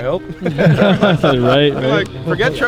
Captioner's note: all laugh